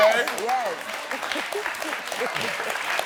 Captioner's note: all laughing; audience applauding